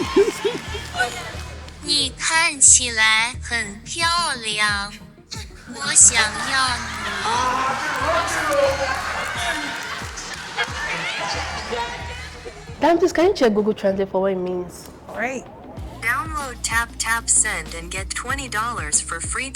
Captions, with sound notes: [laughs] [speaking mandarin] [speaking mandarin] Ah, she's blushing o. [cheering] Dami please can you check Google Translate for what it means? All right. Download Taptap Send and get $20 for free